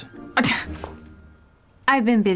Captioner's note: scoffs